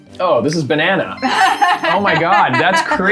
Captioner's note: laughter